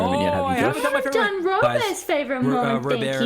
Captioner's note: group yelling; scolding